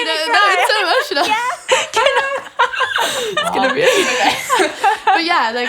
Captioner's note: laughing